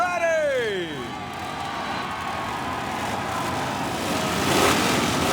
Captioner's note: cheering; motorcycle engine revving